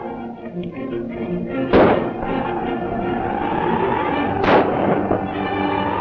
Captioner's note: gunshots